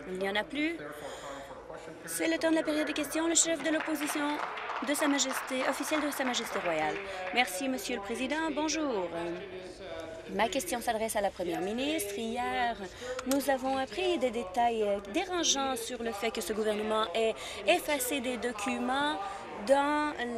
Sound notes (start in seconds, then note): 7.7 applause